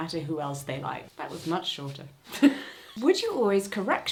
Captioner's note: laughs